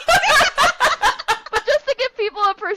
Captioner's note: laughter